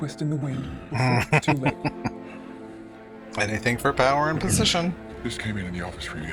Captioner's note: chuckling